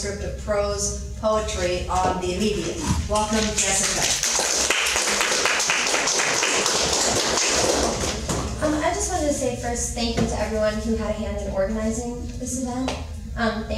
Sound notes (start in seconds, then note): 3.7 audience applauds